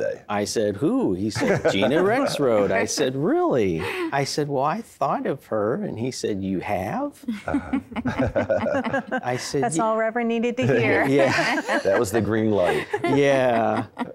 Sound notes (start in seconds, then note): 7.4 laughter; 10.8 laughing